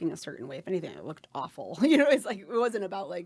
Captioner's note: laughing